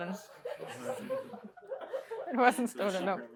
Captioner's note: laughter